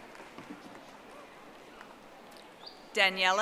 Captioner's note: audience applauding